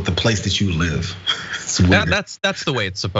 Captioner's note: laugh